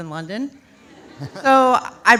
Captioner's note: audience laughs